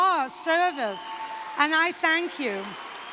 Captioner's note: cheering